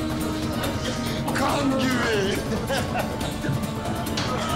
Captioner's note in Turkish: Gülme sesi; Kapı açılma sesi